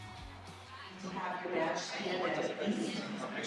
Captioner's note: attendees chattering faintly